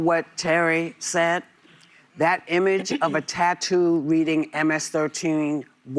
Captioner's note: laughter